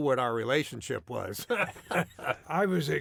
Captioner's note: laughter